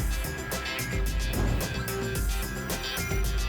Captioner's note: whoosh